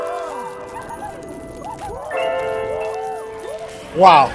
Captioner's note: laughing